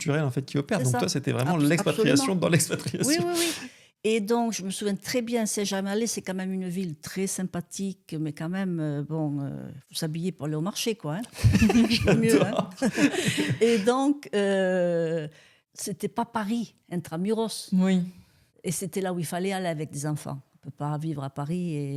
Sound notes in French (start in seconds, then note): 11.3 rires